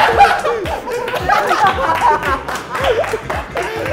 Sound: members bursting out laughing

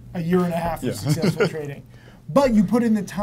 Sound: laughs

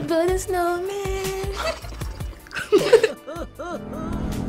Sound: laugh; ominous music

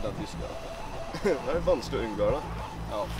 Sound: chuckles

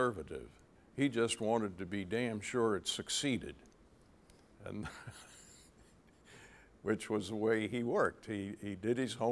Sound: chuckle

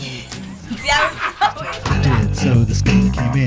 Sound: laugh

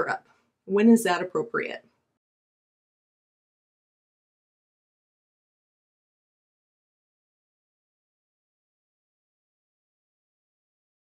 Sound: silence

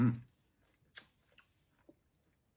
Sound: kissing sound

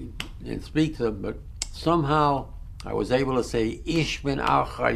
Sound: german

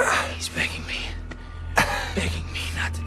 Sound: groaning

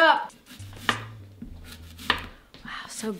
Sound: chopping sound

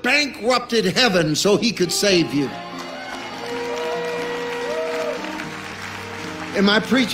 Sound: congregation cheering

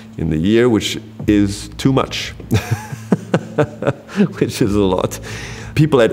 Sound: laughs

